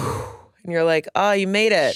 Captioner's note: exhales